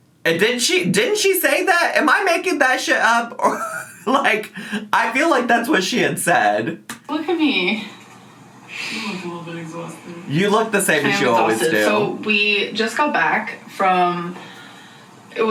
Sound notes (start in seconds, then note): 3.4 laughing